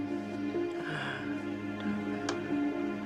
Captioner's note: sigh